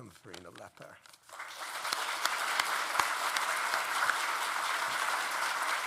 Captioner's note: audience applauding